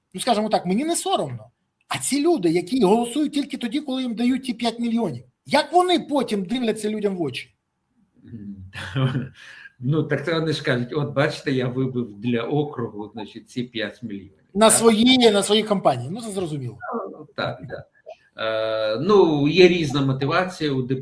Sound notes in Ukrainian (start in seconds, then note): 8.9 сміх